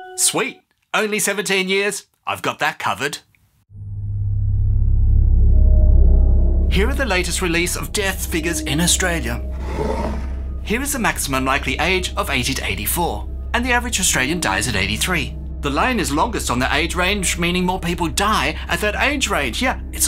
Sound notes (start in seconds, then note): 3.6 spooky sound